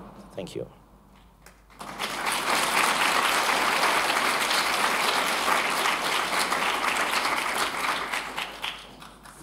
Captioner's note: applause